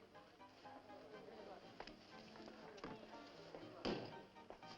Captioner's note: bar patrons chatting